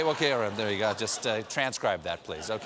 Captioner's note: laughter